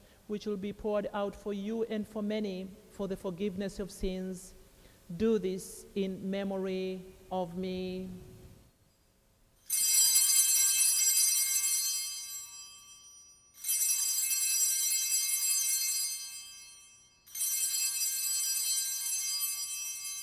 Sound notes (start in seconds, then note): 9.7 bells ringing